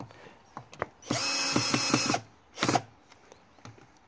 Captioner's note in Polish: Odgłos wkrętarki